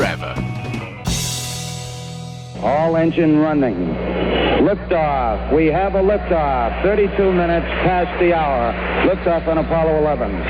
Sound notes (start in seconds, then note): 2.6 TV commentary